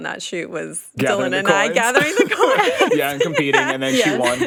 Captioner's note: laughing